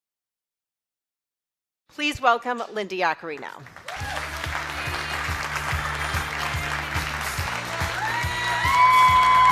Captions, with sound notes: - Please welcome Linda Yaccarino. (audience cheers)